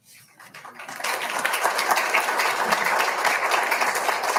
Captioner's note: audience applauding